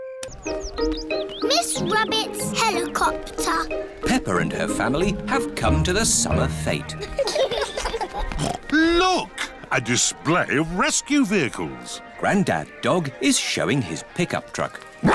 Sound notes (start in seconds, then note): 7.0 laughter; 8.2 snorts